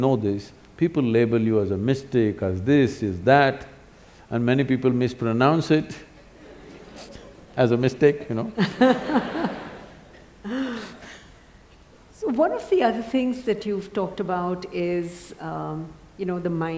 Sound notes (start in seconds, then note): 6.2 laughs; 8.5 laughter